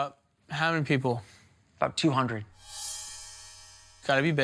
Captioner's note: bell chiming